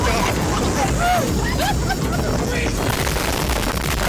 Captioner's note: laughs